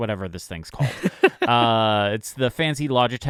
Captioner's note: laughing